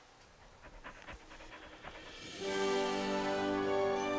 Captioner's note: wolf panting; upbeat expectant music